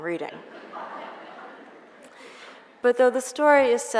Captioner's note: audience chuckles